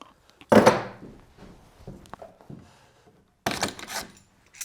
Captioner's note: clamps clattering